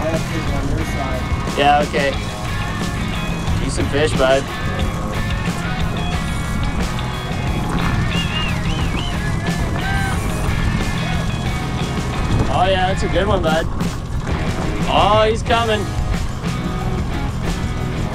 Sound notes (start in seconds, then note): 5.5 upbeat rock music; 8.5 rhythmic whistles